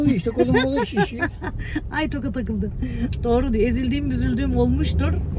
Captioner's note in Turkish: kahkaha